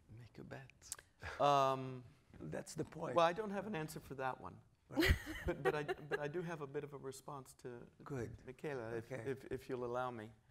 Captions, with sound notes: - Make a bet. - Well, I don't have an answer for that one, (laughing) but I don't have a bit of a response to Michela if you'll allow me.